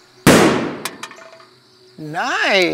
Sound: gunshot firing

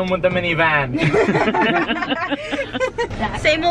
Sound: laughing

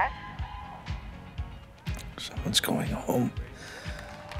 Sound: hoarsely; cheering

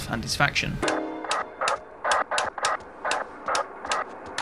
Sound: switches clicking

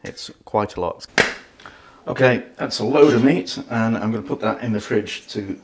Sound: claps

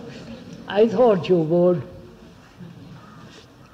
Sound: laughs

